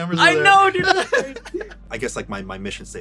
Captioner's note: laughs